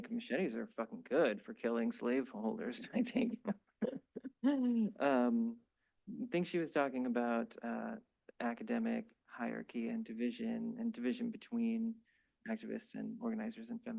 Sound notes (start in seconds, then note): 2.8 chuckles